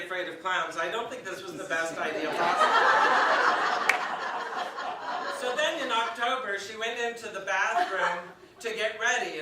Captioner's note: audience laughs